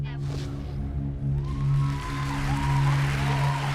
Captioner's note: applause